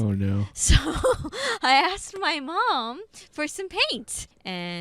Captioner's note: laughing